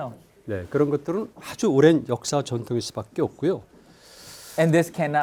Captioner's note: speaking in Korean